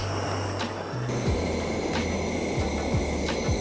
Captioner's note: torch shushing